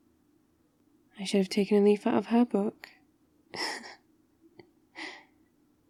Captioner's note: laughs